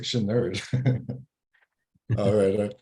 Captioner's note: both laugh